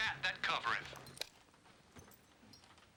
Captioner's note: click